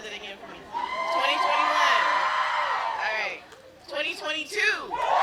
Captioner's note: yelling